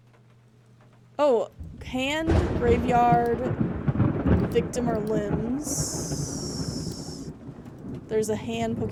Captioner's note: thunder Rumbling